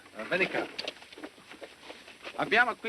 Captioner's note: speaking italian